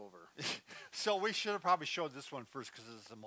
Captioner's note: laughs